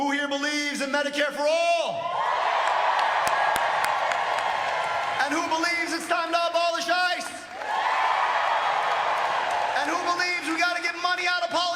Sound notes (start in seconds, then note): 8.5 cheering